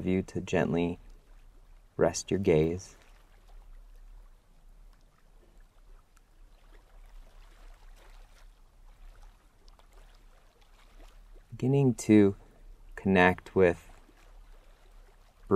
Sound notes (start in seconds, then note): 4.5 pause